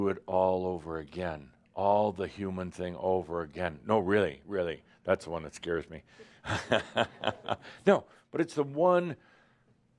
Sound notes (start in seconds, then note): 6.4 he chuckles